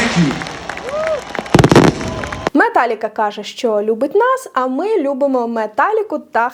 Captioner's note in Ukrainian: оплески